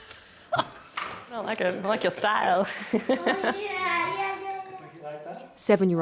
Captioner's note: laughs